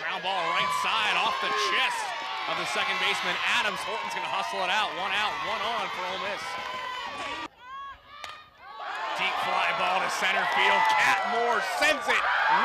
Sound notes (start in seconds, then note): 8.2 ball hitting bat